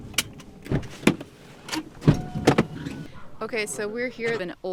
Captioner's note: lock clicks; latch clicks